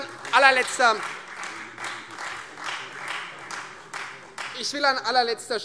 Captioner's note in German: Beifall Freie Demokraten